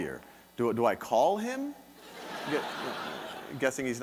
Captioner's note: audience laughing